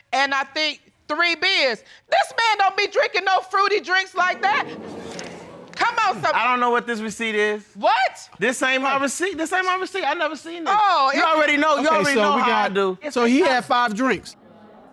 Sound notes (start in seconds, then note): 4.6 audience gasps